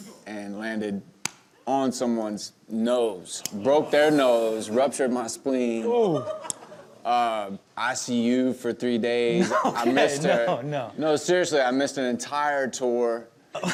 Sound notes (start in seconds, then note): 6.1 audience laughs